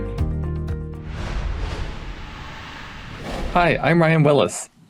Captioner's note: graphics whooshing